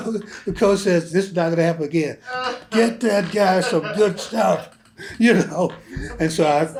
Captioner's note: laughter